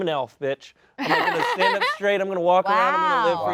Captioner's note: all laugh